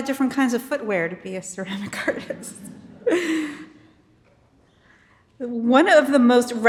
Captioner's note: audience laughing